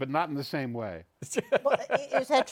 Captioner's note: laughs